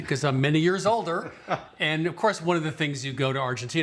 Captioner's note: chuckles